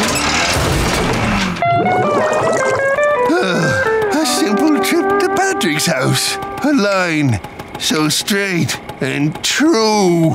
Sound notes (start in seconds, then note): 0.4 thudding; 3.2 sighing